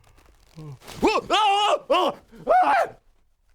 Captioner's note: yawn